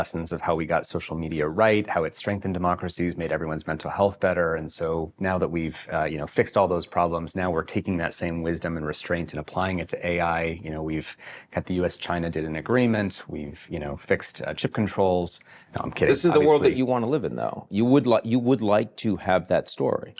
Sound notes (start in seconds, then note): none